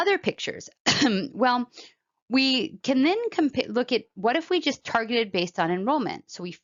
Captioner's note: cough